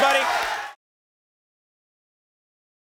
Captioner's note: audience applauding